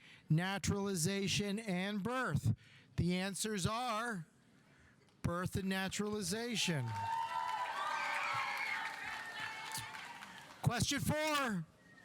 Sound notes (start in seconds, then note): 6.5 audience cheering; 6.6 audience applauding